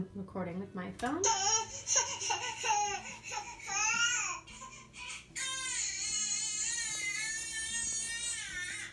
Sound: baby crying sound

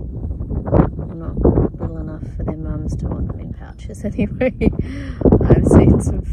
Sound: scoffs

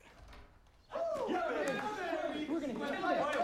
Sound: cheering

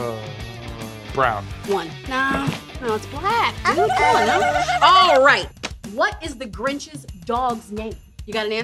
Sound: laughing

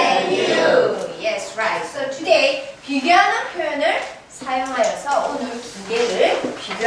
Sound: speaking foreign language

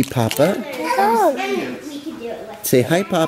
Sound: baby talk

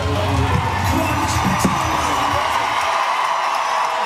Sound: crowd cheering

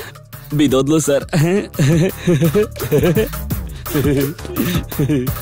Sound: laughs

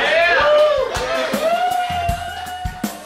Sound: cheering

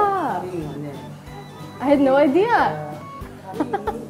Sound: laughs

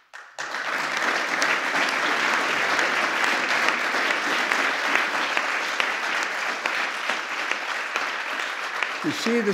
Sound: applause

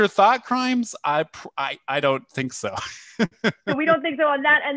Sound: laughter

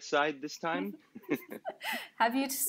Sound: laughs

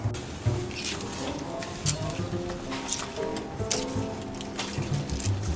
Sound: film reel clanking softly

